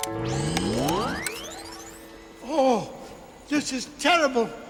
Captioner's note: power surges